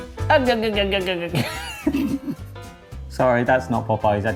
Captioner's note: laughs